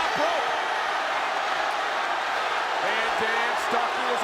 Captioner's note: audience cheering